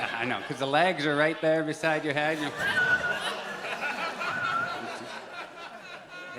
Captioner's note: whistles twice